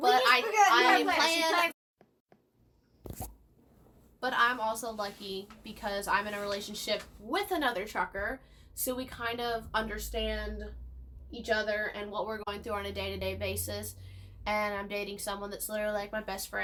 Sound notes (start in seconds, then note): 2.1 silence